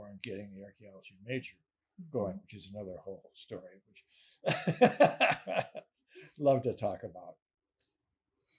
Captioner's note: laughing